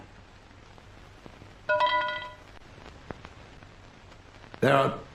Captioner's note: metal clanking